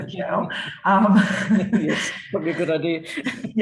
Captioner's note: both laughing